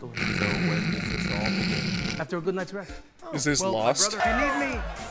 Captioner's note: snort